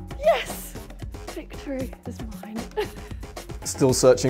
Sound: laughs

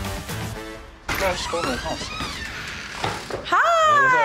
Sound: door creaking

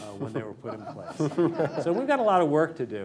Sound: laughter

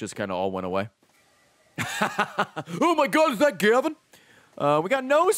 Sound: laughs

